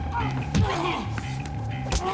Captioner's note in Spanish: Quejidos